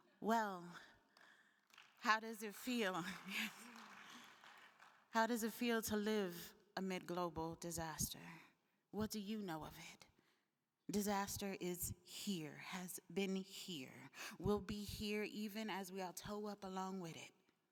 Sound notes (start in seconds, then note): 3.0 attendees applauding; 3.3 laughing